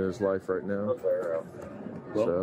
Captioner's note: radio chatter